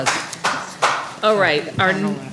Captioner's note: applause